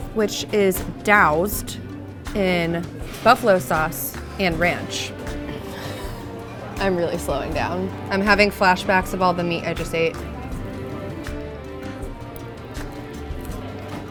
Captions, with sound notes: which is doused in buffalo sauce and ranch. (laughs) I'm really slowing down. I'm having flashbacks of all the meat I just ate. (slow music)